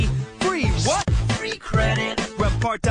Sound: techno Voice

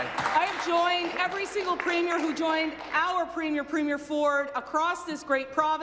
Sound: applause

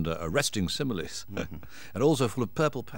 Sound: chuckles

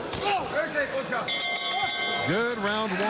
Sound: bell rings

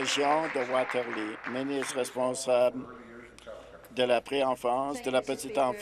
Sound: applause

